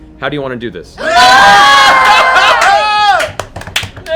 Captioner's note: cheering